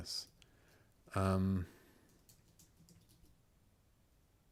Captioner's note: silence